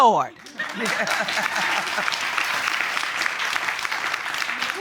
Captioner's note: audience clapping